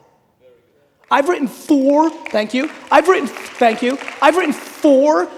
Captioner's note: audience applauding